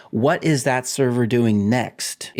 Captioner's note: none